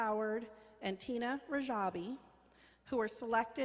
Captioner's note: none